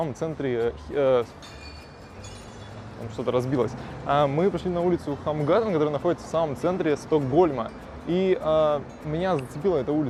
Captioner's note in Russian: звук бьющегося стекла